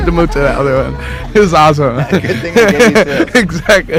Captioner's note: laughs